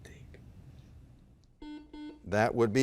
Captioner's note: buzzer blaring